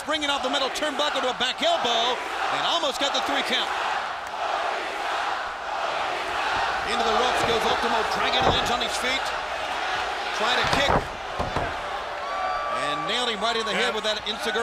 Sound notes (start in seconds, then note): 4.0 crowd cheering